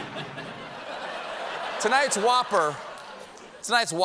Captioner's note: laughter